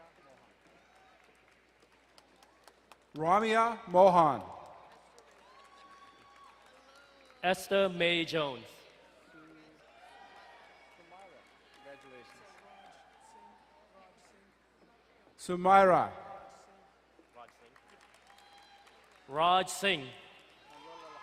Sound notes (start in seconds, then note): 0.2 distant cheering; 5.0 crowd cheering and applauding; 9.3 crowd cheering; 17.2 crowd clapping